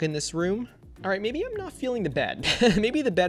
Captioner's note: laughs